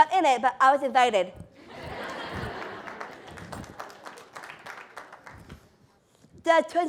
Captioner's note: applause